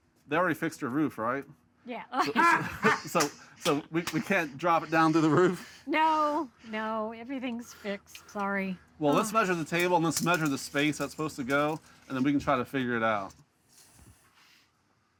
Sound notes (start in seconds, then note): 2.2 laughs